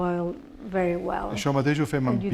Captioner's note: speaking spanish